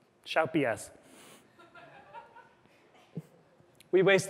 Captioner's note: laughter